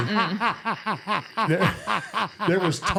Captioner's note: laughing